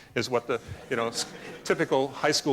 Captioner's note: laughter